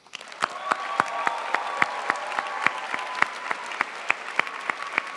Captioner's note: crowd applauds